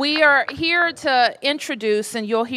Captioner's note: applause